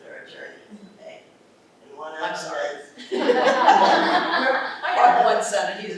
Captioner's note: laughter